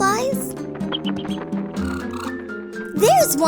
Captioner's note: tweeting